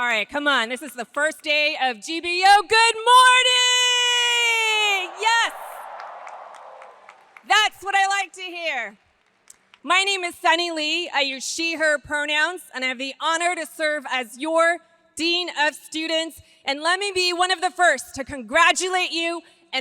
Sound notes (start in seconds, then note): 3.8 audience cheers